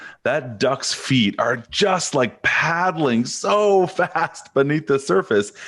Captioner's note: chuckles